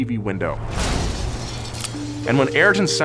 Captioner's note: crash sound